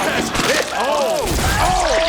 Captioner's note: Squish